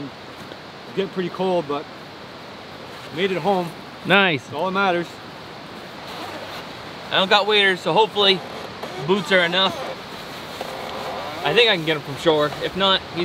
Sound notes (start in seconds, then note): none